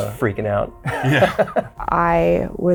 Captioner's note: both chuckling